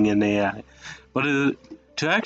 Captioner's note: breathing and weird noises